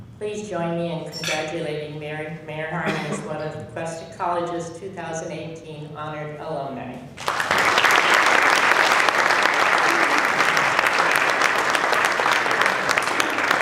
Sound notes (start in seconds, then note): 7.2 applause